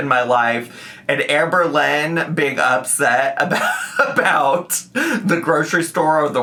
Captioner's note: laughs